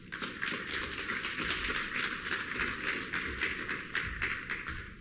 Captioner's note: applause